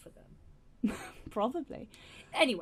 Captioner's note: laughing